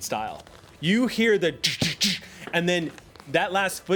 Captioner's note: exhales loudly several times